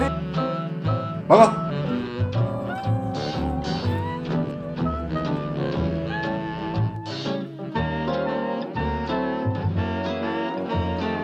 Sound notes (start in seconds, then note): 1.2 Detective Hotteok sniffs hard